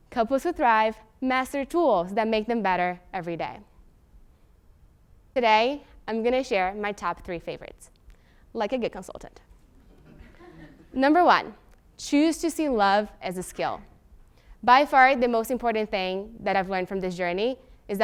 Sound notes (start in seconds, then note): 9.8 laugh